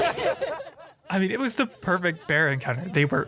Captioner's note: laughing